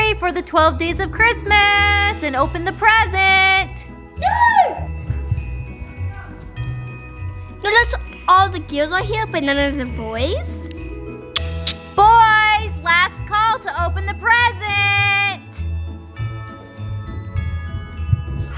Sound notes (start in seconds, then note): 4.2 girl yells; 5.5 upbeat chiming music; 11.3 mouth clicking